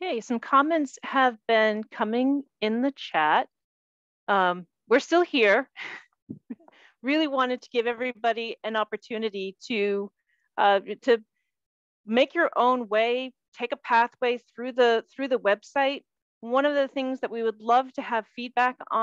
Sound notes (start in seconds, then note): 6.2 chuckles